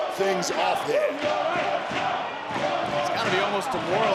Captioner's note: crowd chanting